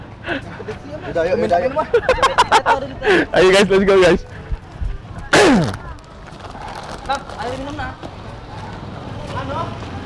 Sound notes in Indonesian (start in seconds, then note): 5.3 batuk